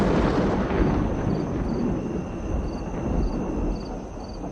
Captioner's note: crickets chirping